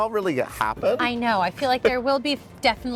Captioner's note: laughing